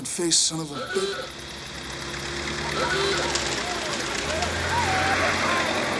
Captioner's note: engine revs; horn honks; distant yelling